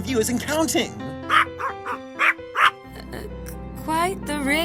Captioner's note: barking sounds